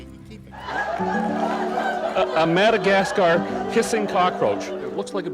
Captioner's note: laughter